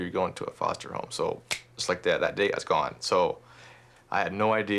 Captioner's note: snaps